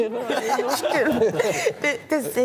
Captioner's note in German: Gelächter